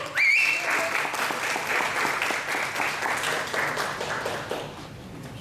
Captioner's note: whistling and applause